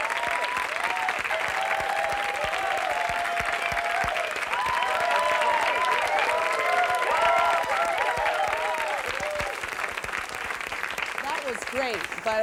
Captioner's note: applause, whoops